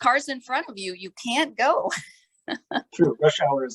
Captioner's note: laughter